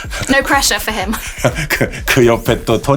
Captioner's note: Bong laughs